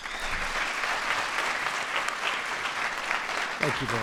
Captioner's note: applause